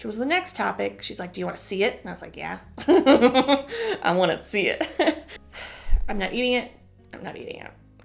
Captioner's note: chuckle